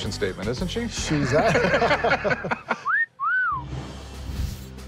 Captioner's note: laughter